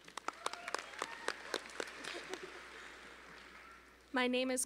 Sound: audience applauding

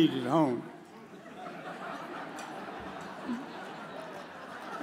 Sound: audience chuckles

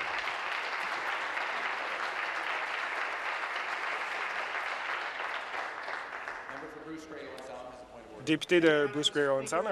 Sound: applause

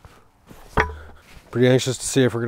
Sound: metal cranks

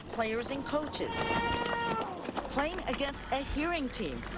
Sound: cheering

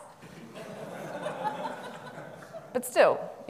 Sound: audience laughing

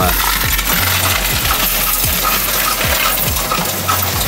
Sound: coins rattling

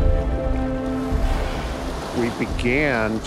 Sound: killer whales splashing

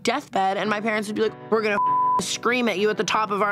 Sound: beeps

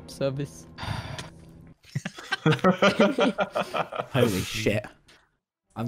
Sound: laughs

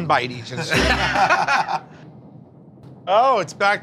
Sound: laughter

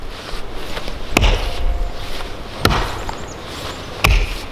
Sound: ax thudding

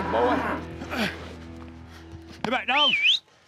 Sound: bull grunts

